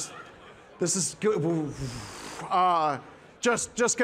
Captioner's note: blowing raspberry